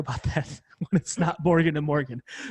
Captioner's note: laugh